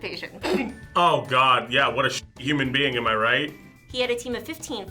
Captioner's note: laughs